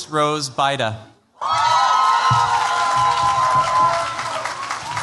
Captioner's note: cheers, applause